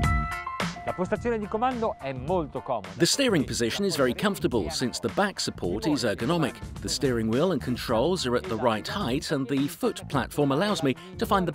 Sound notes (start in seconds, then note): 0.8 speaking foreign language